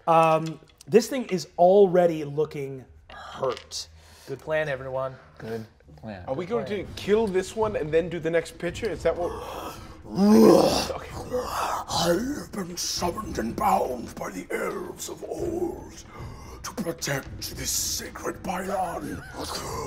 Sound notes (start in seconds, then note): 10.1 roaring; 12.1 gasping old voice